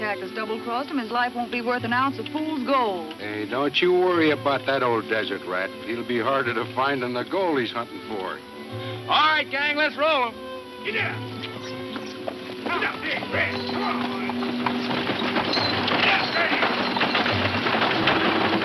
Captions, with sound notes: his life won't be worth an ounce of fool's gold. - Hey, don't you worry about that old desert rat. He'll be harder to find than the gold he's huntin' for. - All right gang let's roll 'em. Giddy up! Come one boys! (wagons clattering)